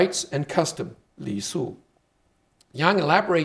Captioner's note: speaking Chinese